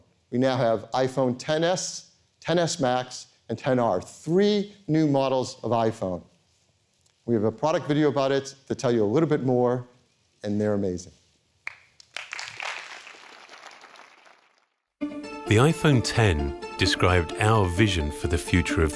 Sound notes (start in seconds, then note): 11.7 applause